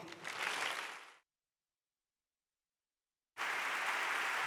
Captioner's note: audience applauds